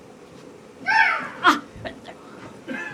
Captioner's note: seagull caws